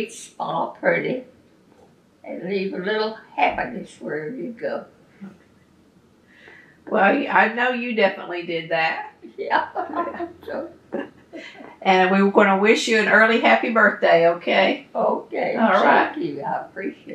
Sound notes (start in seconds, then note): 9.5 laughs